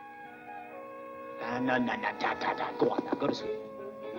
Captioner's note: soft knocking